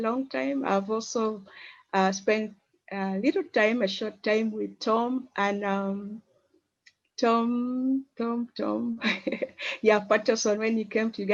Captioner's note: chuckles